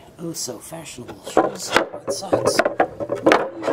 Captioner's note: boards clattering